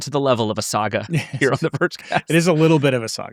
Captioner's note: laughing